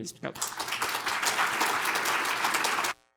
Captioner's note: applause